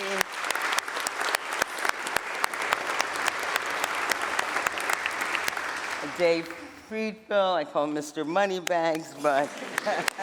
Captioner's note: applause